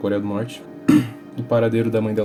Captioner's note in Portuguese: tosse